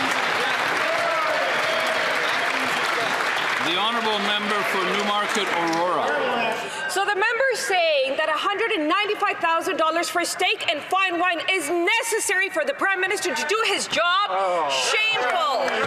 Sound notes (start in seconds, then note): 4.6 cheering and Applause